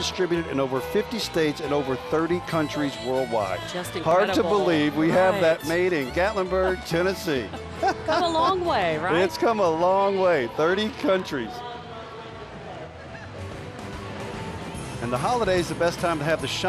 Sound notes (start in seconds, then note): 7.5 laughing; 14.4 holiday music